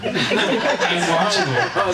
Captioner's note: audience laughing